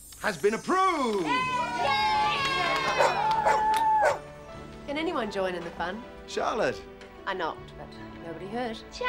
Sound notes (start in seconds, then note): 1.0 cheering and applause; 4.0 barking